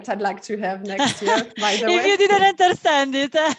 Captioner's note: laughs